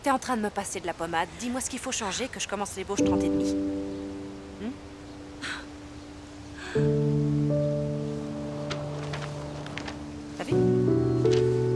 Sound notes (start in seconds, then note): 6.6 gasps